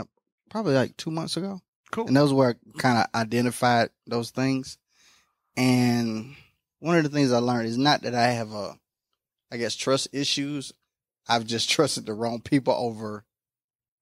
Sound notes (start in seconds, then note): none